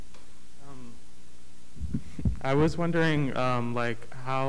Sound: blaring Voice

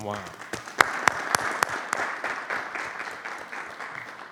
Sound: audience applauding

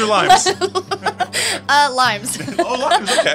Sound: laughs

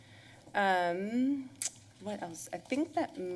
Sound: smacks lips

